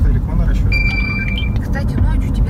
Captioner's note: "Ding!". Signal messages on my phone